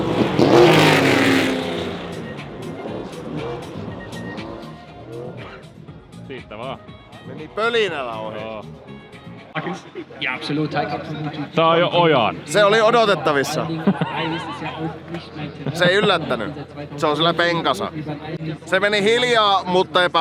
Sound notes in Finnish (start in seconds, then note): 4.2 moottorien pärinää